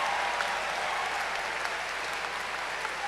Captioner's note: cheers and applause